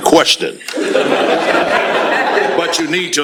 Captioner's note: laughter